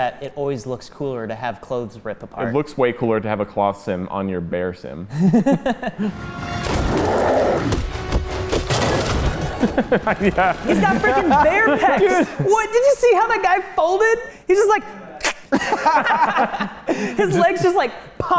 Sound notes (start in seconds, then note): 5.1 chuckle; 6.8 roar; 8.1 fighting noises; 9.4 laughing; 15.1 snap; 15.2 laughing